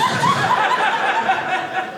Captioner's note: audience laughing